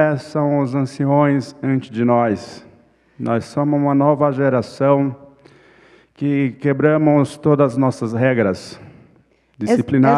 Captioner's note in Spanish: ponente habla en portugués